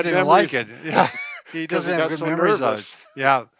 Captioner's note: laughs